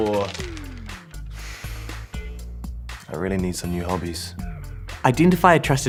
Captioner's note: sighs